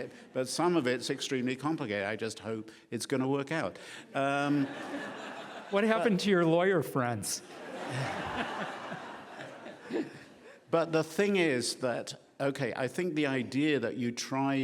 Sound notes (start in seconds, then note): 4.2 laughing; 7.6 laughing